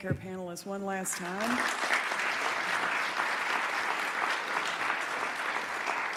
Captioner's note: applause